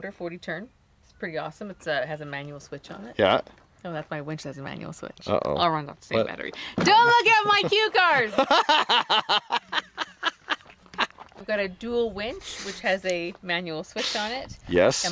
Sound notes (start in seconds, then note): 7.1 laughing